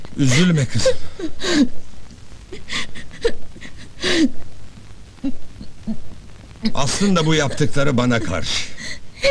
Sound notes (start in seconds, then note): 2.5 crying in the background